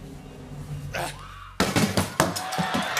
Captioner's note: thudding; cheering and applause